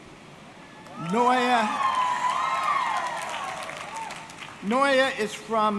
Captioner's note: audience cheering